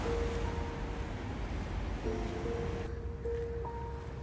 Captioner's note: waves crashing softly